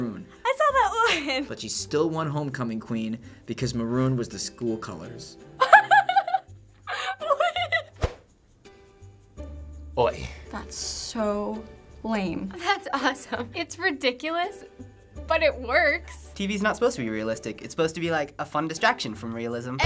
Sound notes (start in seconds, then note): 6.8 laughs